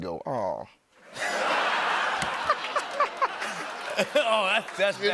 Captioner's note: laughter